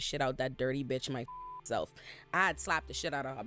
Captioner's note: beep